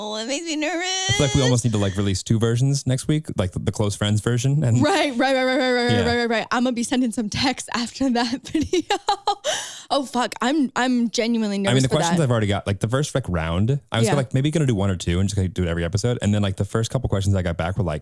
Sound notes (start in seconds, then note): 9.4 laughs